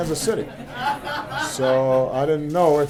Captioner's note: laughter